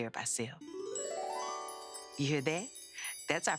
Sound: chiming

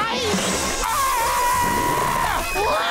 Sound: screaming

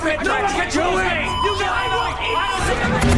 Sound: beeping, arguing; arguing

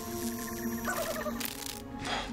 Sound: laughs

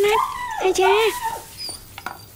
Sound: dog whining

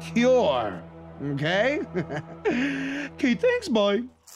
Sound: laughs

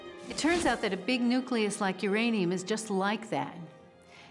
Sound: none

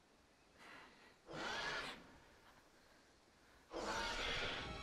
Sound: dinosaur roar

